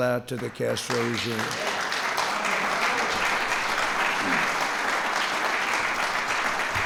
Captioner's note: applause